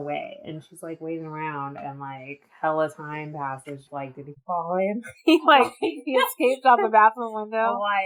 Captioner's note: laughs